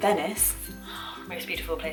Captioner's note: gasp